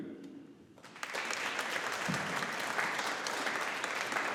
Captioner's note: audience applauding